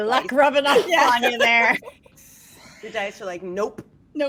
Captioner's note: laughs